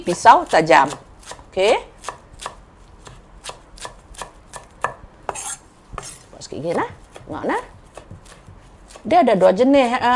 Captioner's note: chopping parsley